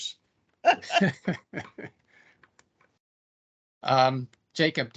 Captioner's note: laughter